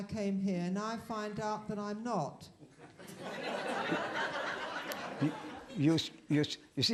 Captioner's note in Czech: smích